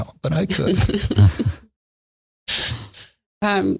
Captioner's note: laughing